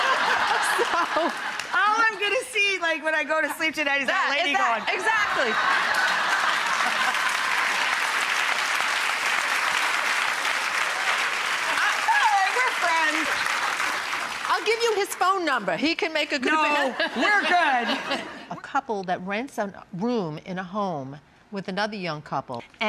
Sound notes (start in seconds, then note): 0.0 audience, Rachael laugh; 5.9 audience laughs, applauds